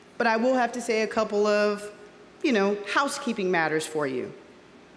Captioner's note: none